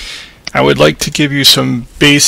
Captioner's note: voiceover